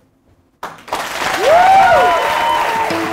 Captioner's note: applause